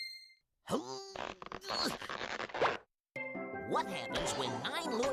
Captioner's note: grunting